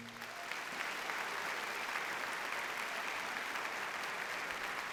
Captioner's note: audience cheers and applauds